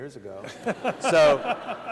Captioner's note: laughter